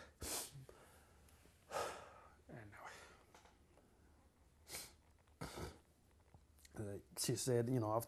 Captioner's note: sighs